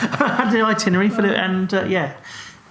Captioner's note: laughing